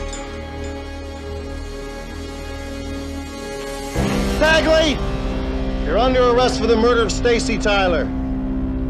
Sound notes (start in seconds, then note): 4.3 on TV; 8.3 tense music